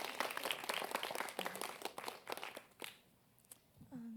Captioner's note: applause